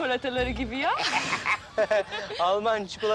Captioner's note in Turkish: Gülme sesleri